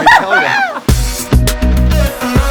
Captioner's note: laughter